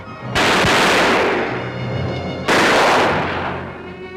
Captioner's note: guns firing